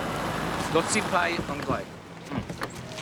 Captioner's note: speaking Mandarin